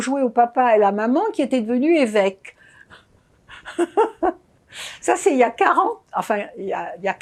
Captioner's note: laughing